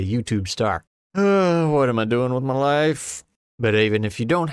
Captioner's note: sigh